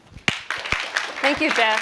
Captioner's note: applause